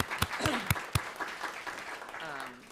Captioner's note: applause